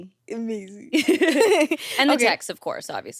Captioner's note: everyone laughs